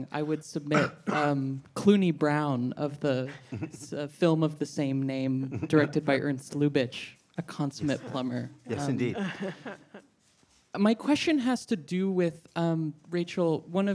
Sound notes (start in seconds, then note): 8.7 laughing